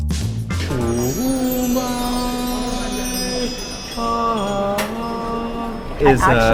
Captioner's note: sparkling noises; echoing divinely